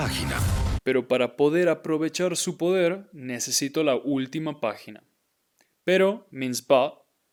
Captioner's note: speaking in Spanish